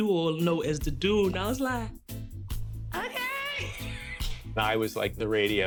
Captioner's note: laughs